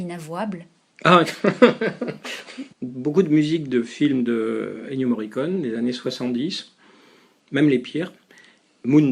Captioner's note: laughs